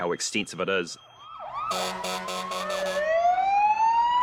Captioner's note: sirens wailing